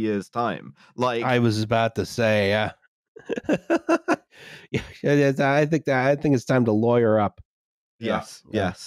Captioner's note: laughs